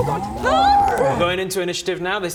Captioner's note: rwaarghgggh!